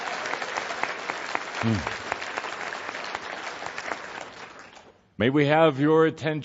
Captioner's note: audience cheering and applause